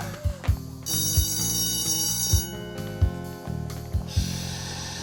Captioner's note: school bell rings